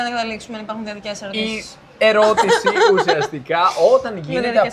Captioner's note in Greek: γέλια